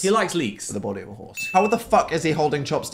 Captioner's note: bell dings